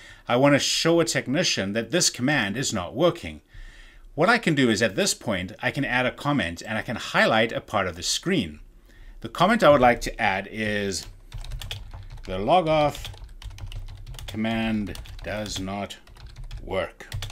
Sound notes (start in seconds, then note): 11.3 keyboard clicking